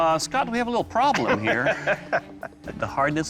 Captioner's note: laughs